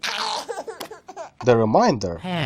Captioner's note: laughs